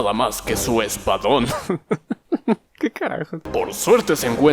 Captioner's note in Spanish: Entre risas